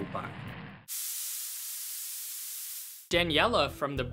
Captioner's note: air hissing